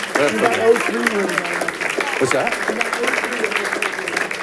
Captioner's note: audience applauding